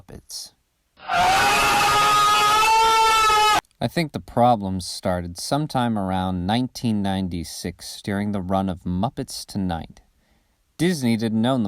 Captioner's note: Screech